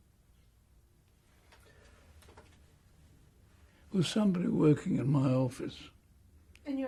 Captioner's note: pauses for 3 seconds